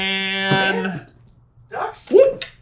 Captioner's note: squeaks